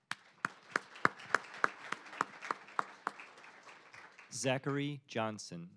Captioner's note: applause